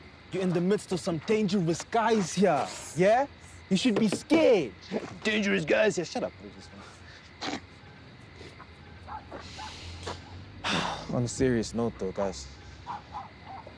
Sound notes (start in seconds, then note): 5.0 mocking; 10.6 sigh